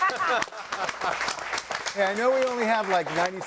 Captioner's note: all laughing; audience applauding